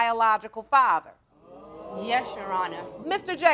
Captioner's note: audience gasps